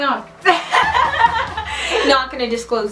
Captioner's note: laughing